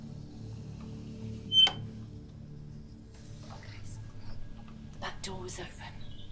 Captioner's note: door creaking